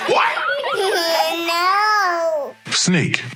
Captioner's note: children laughing